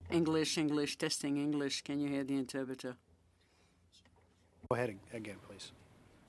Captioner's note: speaking French